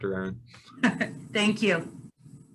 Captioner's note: giggles